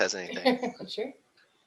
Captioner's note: chuckles